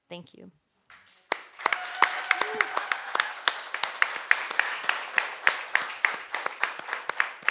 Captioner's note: audience applauding; audience cheering